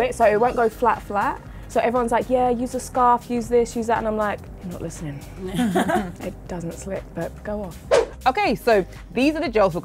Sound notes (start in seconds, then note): 5.4 women laugh